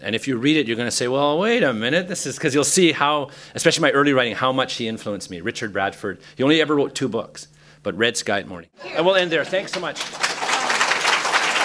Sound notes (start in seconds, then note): 9.2 applause